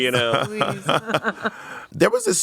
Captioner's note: everyone laughs